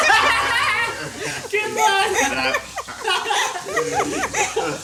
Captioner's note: all laugh